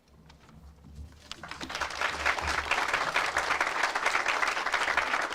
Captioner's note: audience applauds